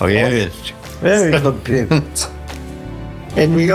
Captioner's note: laughter